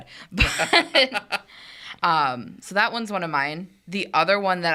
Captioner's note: laughs